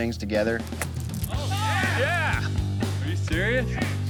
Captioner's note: cheering